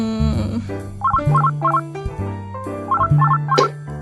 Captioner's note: phone rings; phone rings